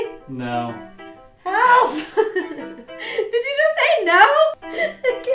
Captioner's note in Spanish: risas; risas